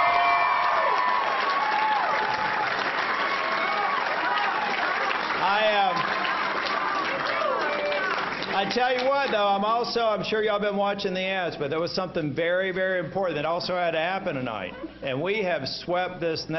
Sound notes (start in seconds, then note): 5.3 applause